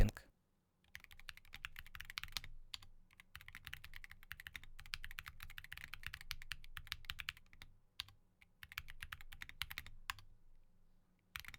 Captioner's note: typing